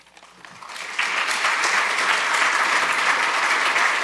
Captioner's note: audience applauding